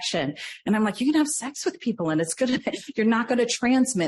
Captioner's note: laughs